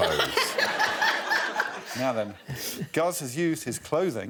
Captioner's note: Desiree laughs